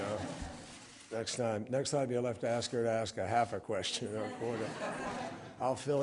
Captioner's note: laughter; laughter